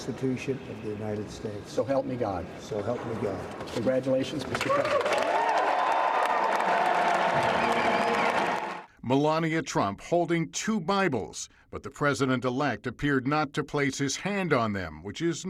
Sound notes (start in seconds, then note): 4.5 applause